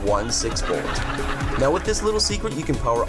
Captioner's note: audience laughs